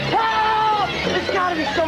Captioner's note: Budnick screams